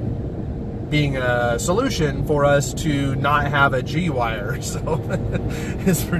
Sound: laughs

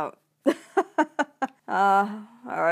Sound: laughs

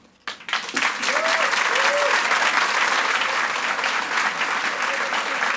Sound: audience applauds and cheers

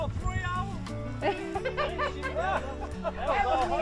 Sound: indistinct conversation

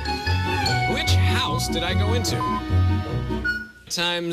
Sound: electronic beeping

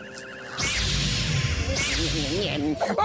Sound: zap!

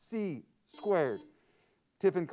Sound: buzzer sounds

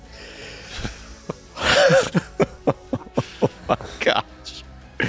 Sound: nervous laughter mixed with suspense

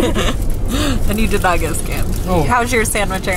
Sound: laughs

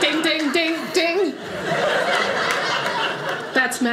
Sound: audience laughing

